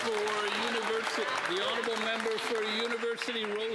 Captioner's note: some Applause